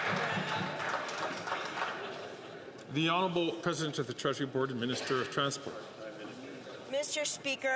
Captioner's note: some Applause